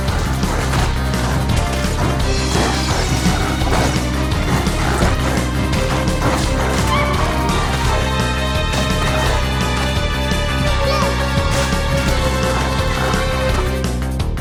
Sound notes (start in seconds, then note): 6.5 cries; 10.1 tense music